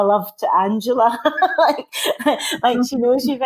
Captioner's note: laughing